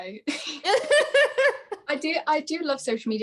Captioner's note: laughing